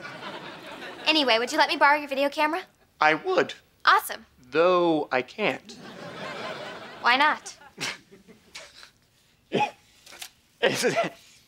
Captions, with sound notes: Anyway, would you let me borrow your video camera? - I would. - Awesome. Though I can't. Why not? [laughs nervously] It's that...